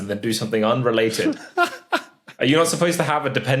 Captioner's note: laughs breathily